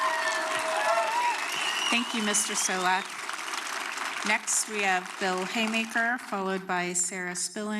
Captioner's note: applause